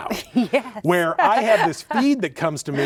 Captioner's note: laughs